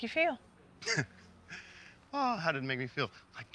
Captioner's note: chuckles